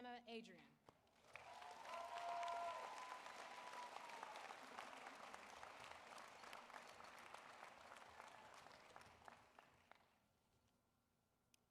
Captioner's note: applause